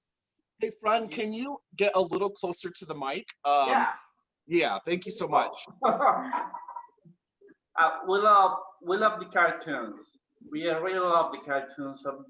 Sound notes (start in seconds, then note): 5.8 laughs